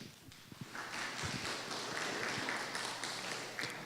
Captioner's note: applause